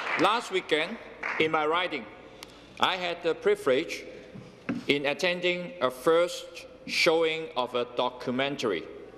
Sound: some Applause

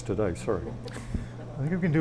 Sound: audience laughs

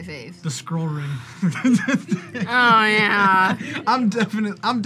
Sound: laughs

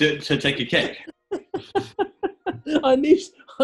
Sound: giggling

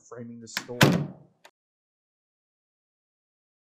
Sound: door slams

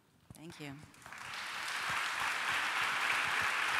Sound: applause

